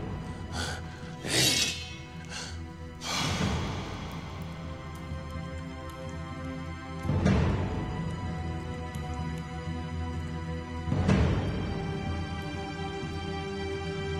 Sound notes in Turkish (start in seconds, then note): 0.0 Nefes sesleri; 1.2 Kılıç sesi; 2.3 Derin nefes sesi